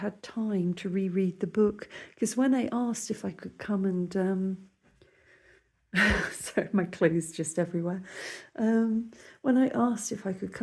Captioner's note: laughing